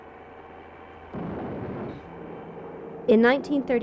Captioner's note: explosion